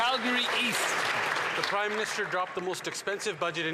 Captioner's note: applause